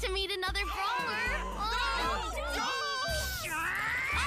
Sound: all gasping; meowing; screaming

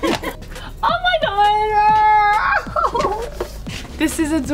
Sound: laughing

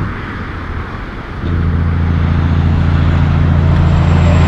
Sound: engine brake

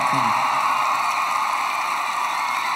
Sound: cheering

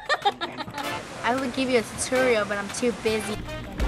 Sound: laughs at pervy question

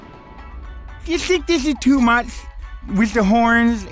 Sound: lisping

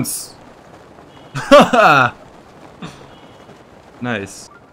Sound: laughs

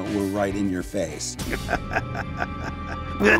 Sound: laughing maniacally

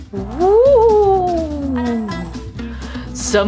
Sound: ghost wailing

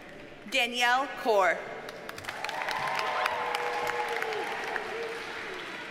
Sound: audience cheers and applauds

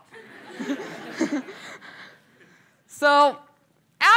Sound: laughter

